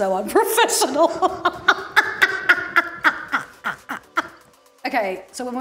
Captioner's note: laughing